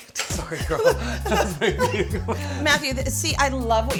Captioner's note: both laugh